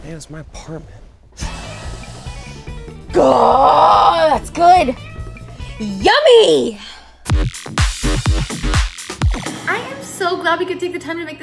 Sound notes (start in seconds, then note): 1.4 inhales; 7.2 upbeat music